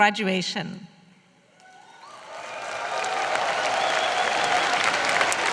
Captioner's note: applause